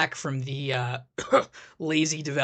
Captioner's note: cough